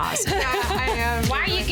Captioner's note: laughing